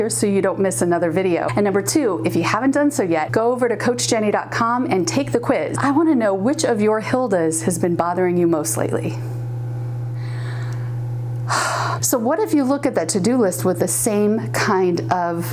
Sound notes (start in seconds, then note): 11.4 sighing